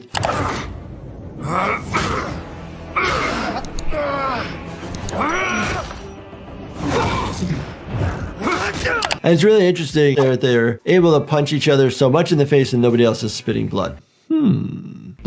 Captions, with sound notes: (mouse clicking) (The Immortal grunting) (Invincible groaning) (The Immortal roaring) (bones crunching) And it's really interesting that they're able to punch each other so much in the face and nobody else is spitting blood. Hm!